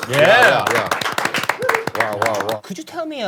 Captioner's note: everyone clapping for them